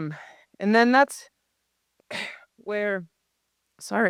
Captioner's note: coughing